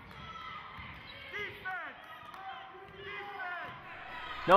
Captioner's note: crowd cheers